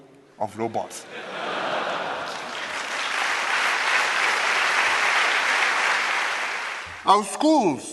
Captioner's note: laughter and applause